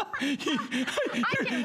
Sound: laughter

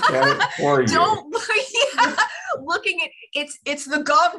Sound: laughter

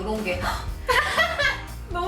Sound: gasp

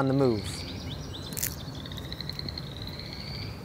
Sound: birds chirping

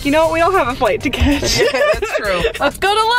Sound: all laughing

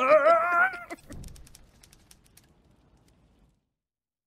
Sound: screaming

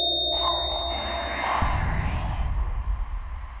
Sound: creepy Voices

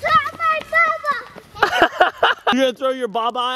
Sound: laughing

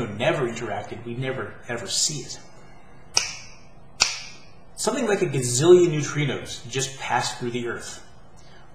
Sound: snap, snap

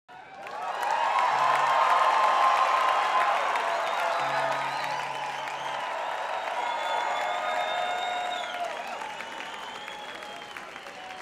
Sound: audience cheering

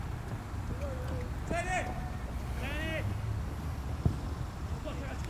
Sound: players talking and yelling

